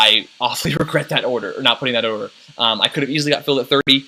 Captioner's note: chuckles